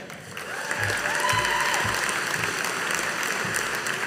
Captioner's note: audience applauding